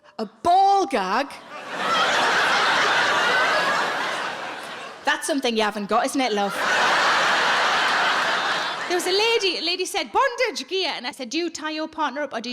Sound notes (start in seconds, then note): 1.4 audience laughing